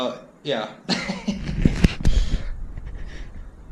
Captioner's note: laughing